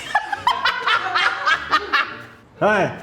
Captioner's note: laughs